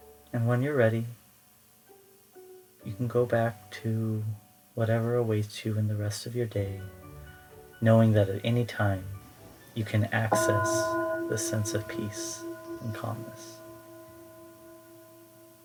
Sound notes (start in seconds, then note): 14.5 bell tone